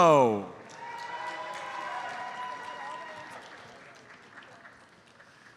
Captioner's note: audience cheers and applauds